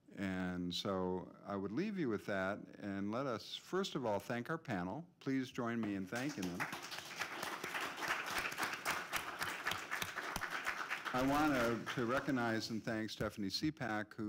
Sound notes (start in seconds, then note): 6.1 applause